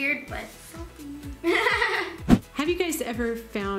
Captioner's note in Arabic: يضحك